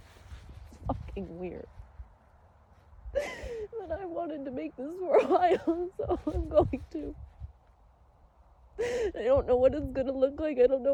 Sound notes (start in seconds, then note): 2.8 sobs lightly through words